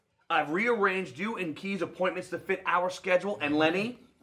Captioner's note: none